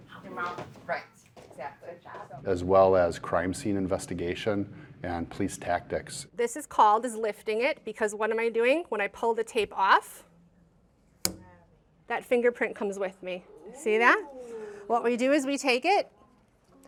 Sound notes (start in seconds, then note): 11.2 pop